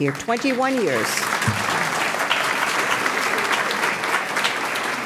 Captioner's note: audience clapping